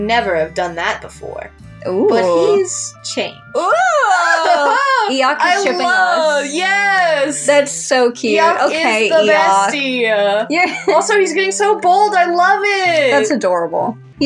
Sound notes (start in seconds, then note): 3.6 excited Giggles; 10.8 laugh